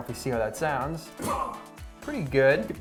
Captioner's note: grunts